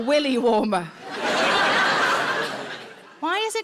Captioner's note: audience laughs